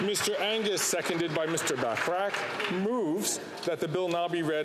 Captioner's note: applause